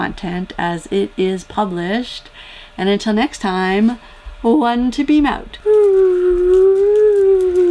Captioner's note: whoooo